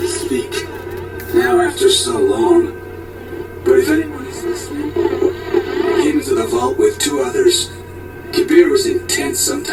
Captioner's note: distorded signal; distorded signal